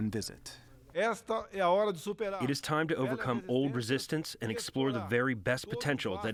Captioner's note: through translator